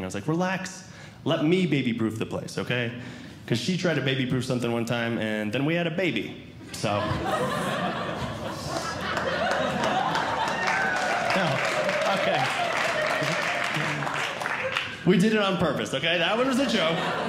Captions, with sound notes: I was like, relax. Let me baby-proof the place, okay? Because she tried to baby proof something one time, and then we had a baby, so. [Audience Laughing] [Audience Clapping] We did it on purpose, okay? That one was a joke.